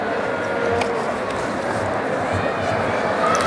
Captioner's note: applause and cheering